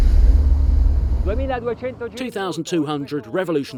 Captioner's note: speaking in foreign language